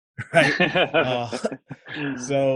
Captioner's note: laughs